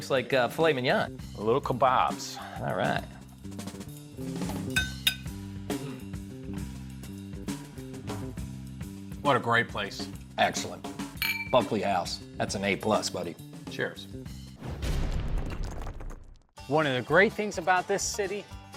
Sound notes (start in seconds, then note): 11.2 glasses clinking; 14.6 thudding